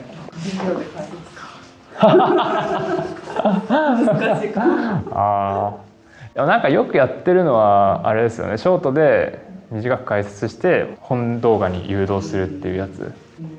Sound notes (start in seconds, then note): 5.6 laughs